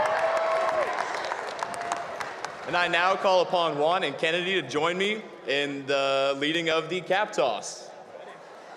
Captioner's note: cheers and applause